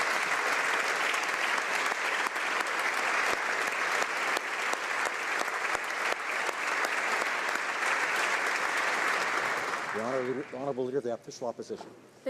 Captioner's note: applause